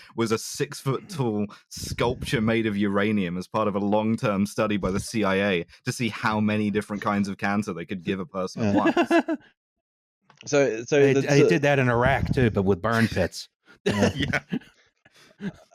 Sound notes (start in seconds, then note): 8.5 laughs; 13.8 laughter